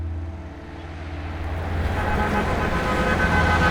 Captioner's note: horn honking